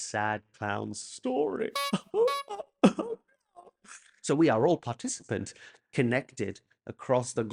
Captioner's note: SFX clown nose